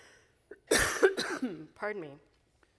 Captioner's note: coughing